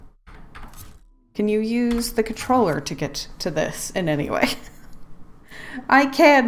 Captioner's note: laughs